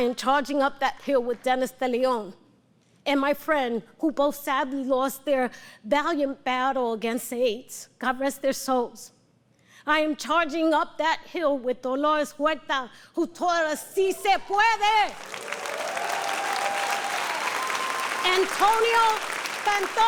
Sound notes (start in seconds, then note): 17.3 audience cheering and applause